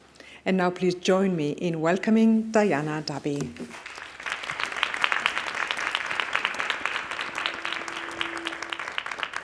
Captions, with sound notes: And now please join me in welcoming Diana Dabby. [applause]